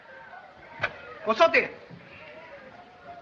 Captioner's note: speaks chinese